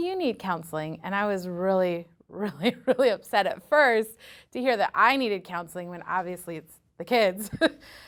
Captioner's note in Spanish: risas